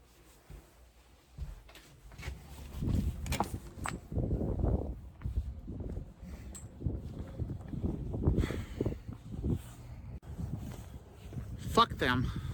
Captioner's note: wind outside rustling